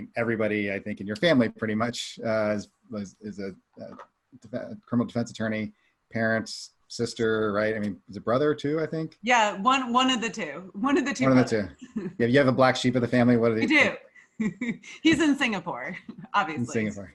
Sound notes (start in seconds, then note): 11.2 chuckles; 14.7 laughs lightly